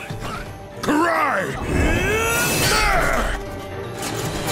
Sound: grunting

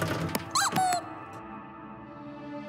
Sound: squeaks

